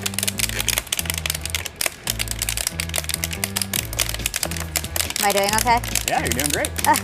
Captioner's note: popping noise